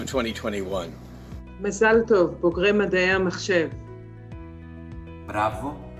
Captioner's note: woman speaking in foreign language